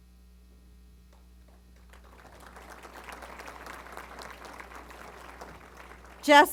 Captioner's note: applause